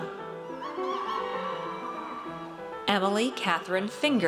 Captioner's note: audience cheers